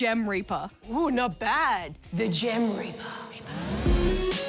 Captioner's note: whispers